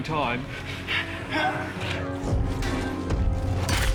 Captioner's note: grunting